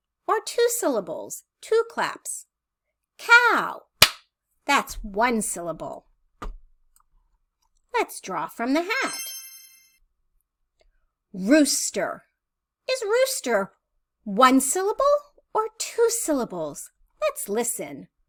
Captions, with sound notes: Or two syllables? Two claps? Cow. [clap] That's one syllable. Let's draw from the hat. [chime sound] Rooster. Is rooster one syllable or two syllables? Let's listen.